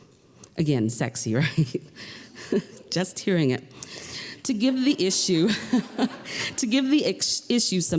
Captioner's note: laughter